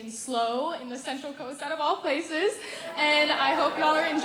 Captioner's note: cheering